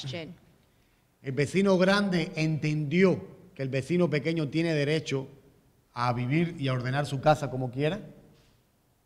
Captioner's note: speaking in Spanish